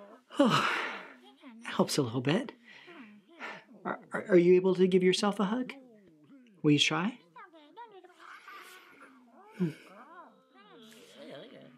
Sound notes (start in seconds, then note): 0.2 sighs; 2.0 critters mumbling; 7.2 critters mumbling